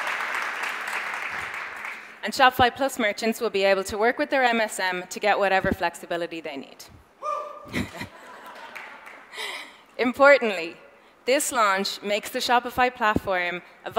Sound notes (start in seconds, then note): 7.2 audience member cheers; 7.6 chuckles; 9.5 audience laughs